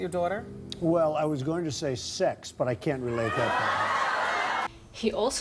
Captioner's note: crowd screams and laughs